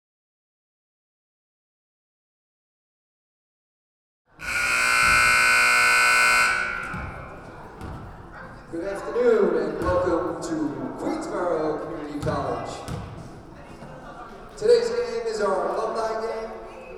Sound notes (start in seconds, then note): 4.4 buzzer